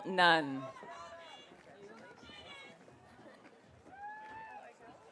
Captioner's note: audience cheering